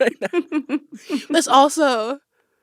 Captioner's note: laughter